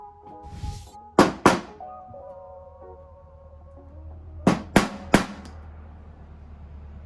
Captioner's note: upbeat music; hammer thudding